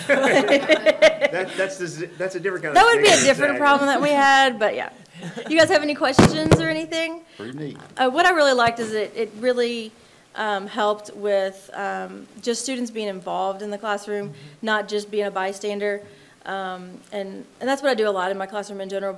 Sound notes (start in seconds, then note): 0.0 attendees laughing; 5.0 attendee chuckling